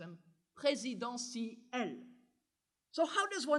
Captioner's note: french